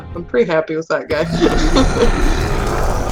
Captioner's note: roar